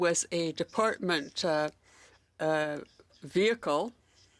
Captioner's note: speaking French